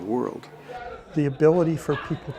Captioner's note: crowd chatter